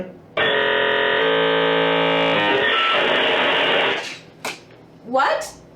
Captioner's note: distortion sound effect